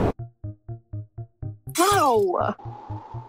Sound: crack

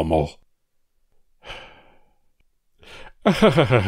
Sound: sigh

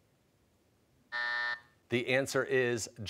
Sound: buzzer

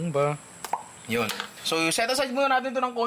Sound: pop

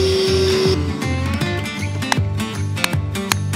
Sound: deep hammering

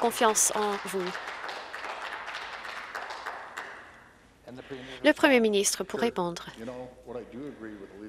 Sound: some Applause

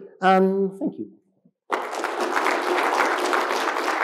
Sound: claps

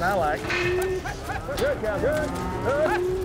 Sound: cows mooing

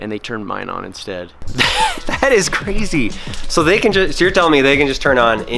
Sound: laughing

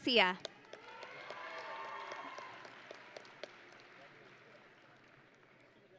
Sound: audience and graduates cheering

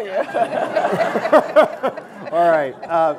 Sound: audience Laughing

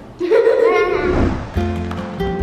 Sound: kids laughing; happy music

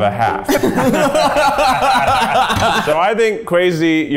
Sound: they laugh

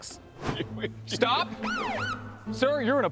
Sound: police siren whoops

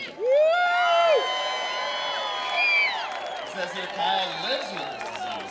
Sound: crowd cheering

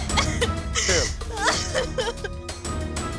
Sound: cries

